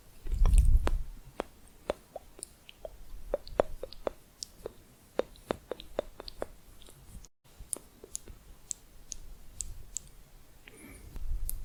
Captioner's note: clicking on lips